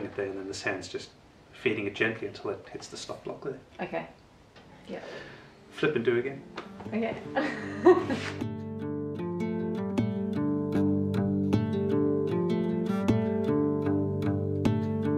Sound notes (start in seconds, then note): 7.4 laughs; 9.3 soft music